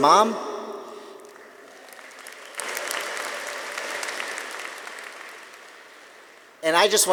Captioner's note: audience applauding; audience cheering